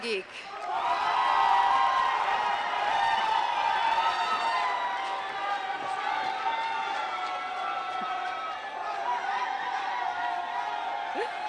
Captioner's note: applause